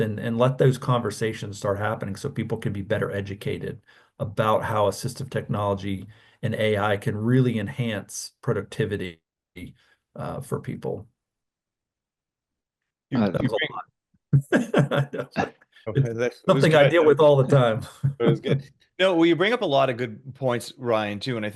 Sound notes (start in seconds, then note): 14.3 chuckles